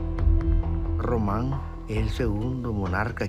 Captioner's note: speaking Spanish